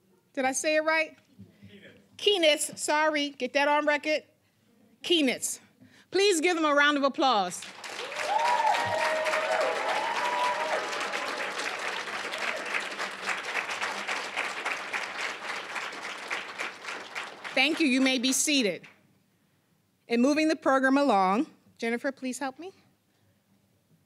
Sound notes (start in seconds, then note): 7.6 applause, cheering